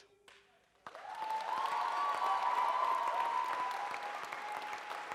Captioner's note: audience cheers and applauds